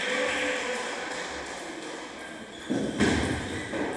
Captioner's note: applause